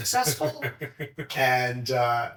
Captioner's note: chuckling